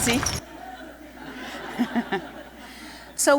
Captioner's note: laughter